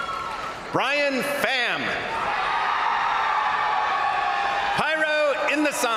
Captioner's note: crowd applauding; crowd cheering; crowd cheering